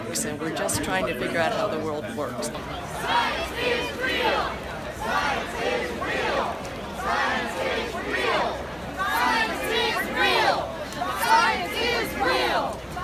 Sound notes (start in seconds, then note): 3.1 crowd chanting